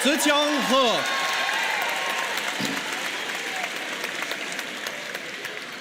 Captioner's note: applause